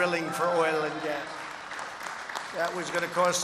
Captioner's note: applause